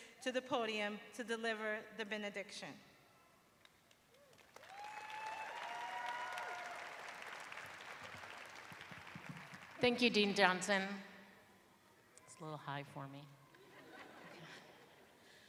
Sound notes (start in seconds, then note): 4.1 applause; 10.5 laughter